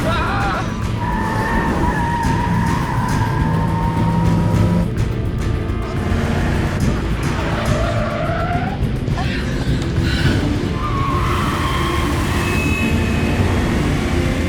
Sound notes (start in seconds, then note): 0.0 Tariq shouts; 1.2 tires screeching; 2.4 moving to dramatic music; 7.8 tires screeching